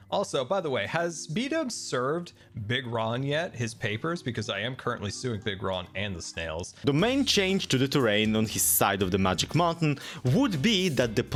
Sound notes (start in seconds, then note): none